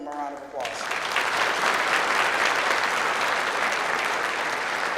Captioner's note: clapping